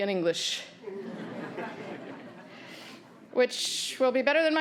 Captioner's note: audience laughing